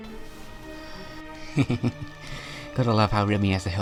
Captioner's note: laughs